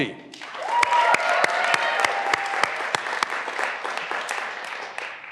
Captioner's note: graduands cheering and applauding